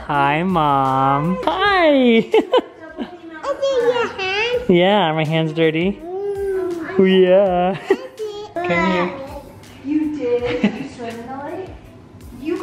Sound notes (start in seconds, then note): 2.2 chuckles; 7.7 chuckles